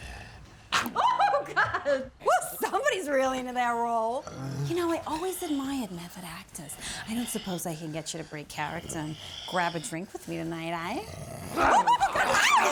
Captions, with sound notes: -(TEETH CHOMPING) -Oh, god! Woo, somebody's really into their role. You know, I always admired method actors. I don't suppose I can get you to break character and grab a drink with me tonight, eh? -(ZOMBIE WALTER GRUMBLING) -(VIVIEN GIGGLING)